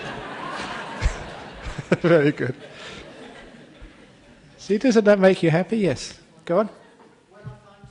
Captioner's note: laughter